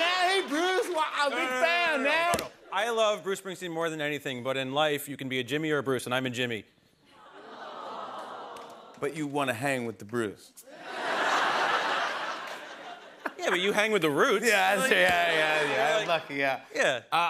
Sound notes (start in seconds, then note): 6.8 audience awws; 10.7 laughter; 16.1 laughter